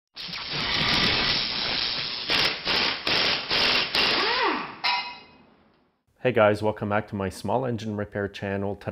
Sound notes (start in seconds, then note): 0.2 buzzing sounds